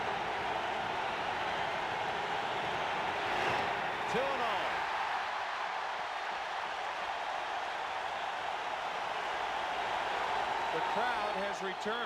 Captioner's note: applause; cheering and Applause